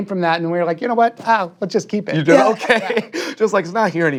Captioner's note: laughs